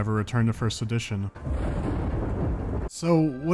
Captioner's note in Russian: драматичный удар грома